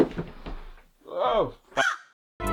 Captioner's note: crow call